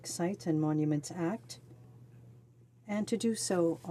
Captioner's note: speaking French